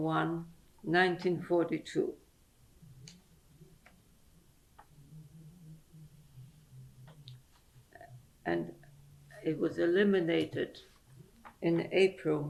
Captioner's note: pauses for 7 seconds